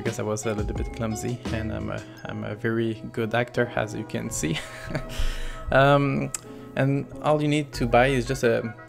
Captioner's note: laugh